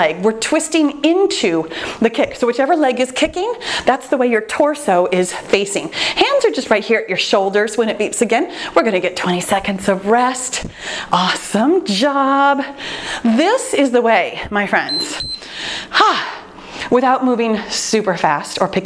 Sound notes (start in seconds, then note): 14.8 timer beeps; 15.6 sighs